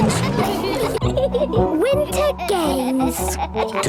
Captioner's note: giggling